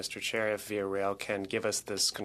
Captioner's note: speaking French